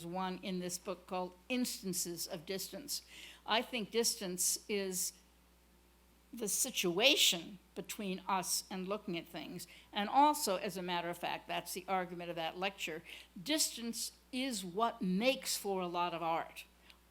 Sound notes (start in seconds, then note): none